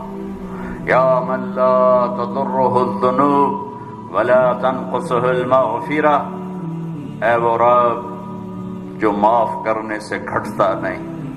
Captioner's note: Arabic